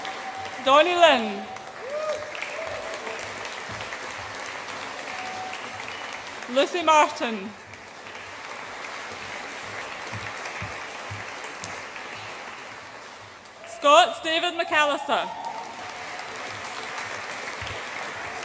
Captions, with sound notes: Donny Lin. (AUDIENCE APPLAUDS AND CHEERS) Lucy Martin. (AUDIENCE APPLAUDS) Scott David McAllister. (AUDIENCE APPLAUDS AND CHEERS)